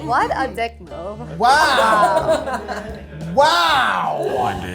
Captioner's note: laughs